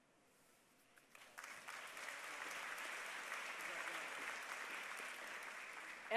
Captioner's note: applause